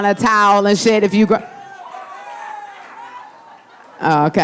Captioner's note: audience applauding